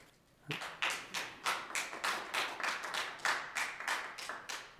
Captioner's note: audience clapping